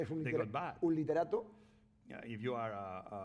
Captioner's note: speaking spanish